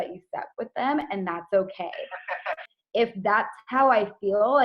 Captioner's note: laughing over the phone